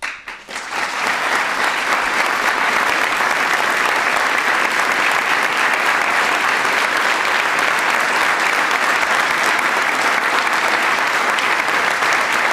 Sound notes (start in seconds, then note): 2.6 applause